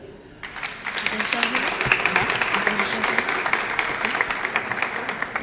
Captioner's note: applause